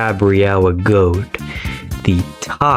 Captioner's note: inhales Oxygen